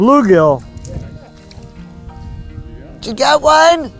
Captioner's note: speaker laughs